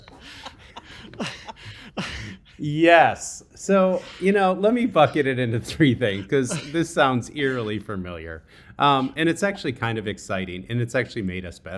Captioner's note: laughing